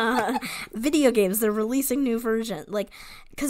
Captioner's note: laughs